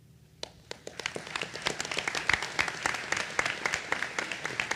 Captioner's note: audience applauding